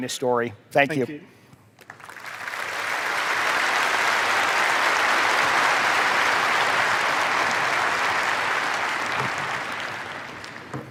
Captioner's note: applause